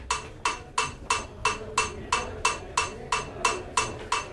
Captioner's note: metronome clangs